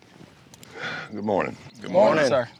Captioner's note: sigh